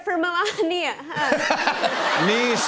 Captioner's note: laughter